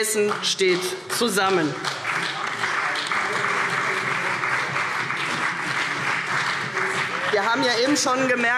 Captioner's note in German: Beifall CDU und BÜNDNIS 90/DIE GRÜNEN